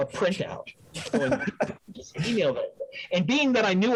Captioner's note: laughs